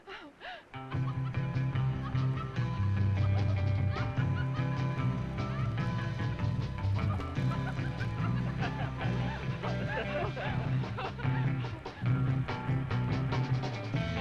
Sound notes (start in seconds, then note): 0.6 both laughing; 0.6 gentle surfer music